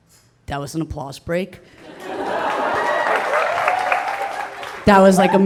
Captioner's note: audience laughing